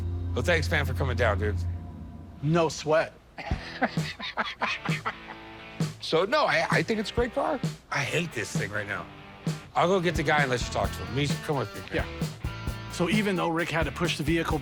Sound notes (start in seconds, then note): 3.3 laughs